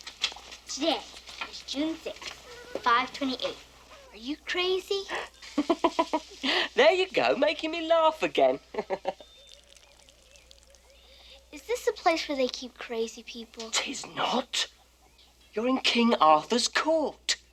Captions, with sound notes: TODAY IS JUNE 6, 528. ARE YOU CRAZY? [laughs] THERE YOU GO, MAKING ME LAUGH AGAIN. IS THIS A PLACE WHERE THEY KEEP CRAZY PEOPLE? 'TIS NOT. YOU'RE KING ARTHUR'S COURT.